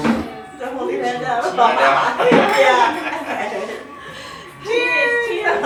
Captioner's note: indistinct conversation and laughter